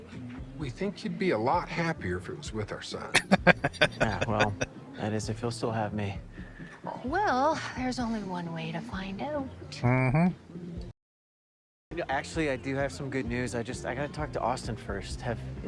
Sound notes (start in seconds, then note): 3.1 laughing